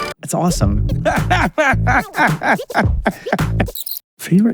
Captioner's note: laughing